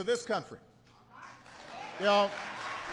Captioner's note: applause